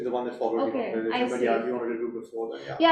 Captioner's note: faintly speaking